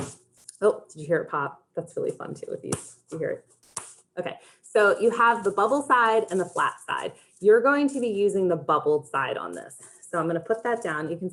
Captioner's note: one of the bubble wrap bubbles popped